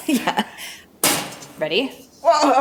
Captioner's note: chuckles